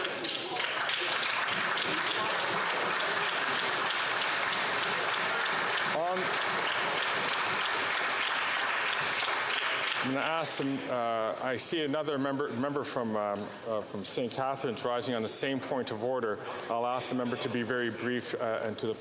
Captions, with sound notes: THAT IS SOMETHING VERY -- [Some Applause]